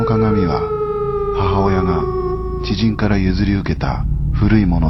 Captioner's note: speaking in foreign language